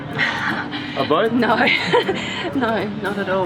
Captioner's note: laughing